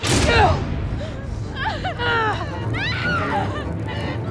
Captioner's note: musique tendue; sanglotant hystérique